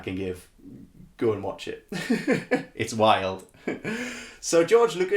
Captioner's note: laughing